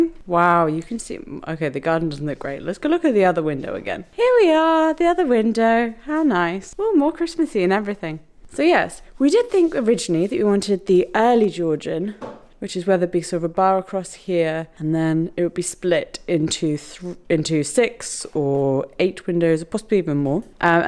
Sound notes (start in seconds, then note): none